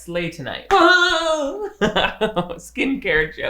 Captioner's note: guffawing